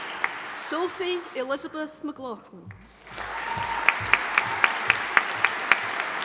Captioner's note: audience applauding